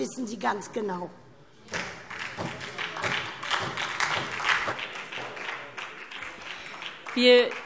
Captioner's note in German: Beifall SPD und vereinzelt DIE LINKE